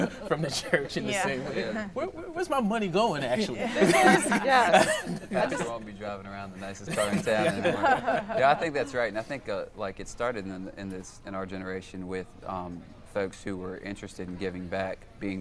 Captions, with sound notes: from their church in the same way. Where's my money going actually? (laughing) - They won't be driving around the nicest car in town anymore. Yeah, I think that's right and I think it's started in our generation with folks who were interested